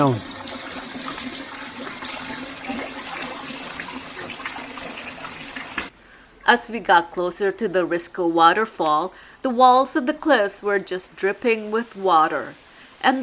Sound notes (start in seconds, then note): 0.0 water trickling down sound